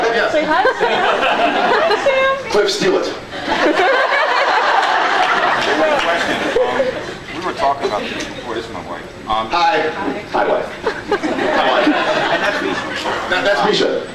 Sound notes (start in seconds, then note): 0.6 scattered laughs; 3.3 laughs; 10.7 laughs